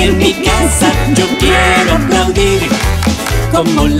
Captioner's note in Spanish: Sonido de aplausos